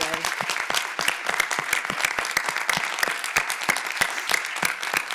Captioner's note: all applauding